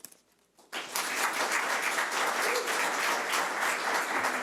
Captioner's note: audience applause